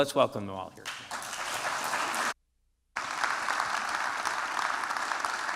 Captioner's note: applause